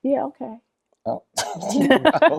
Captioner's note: all laugh